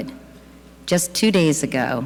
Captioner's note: none